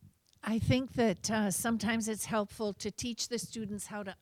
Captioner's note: voiceover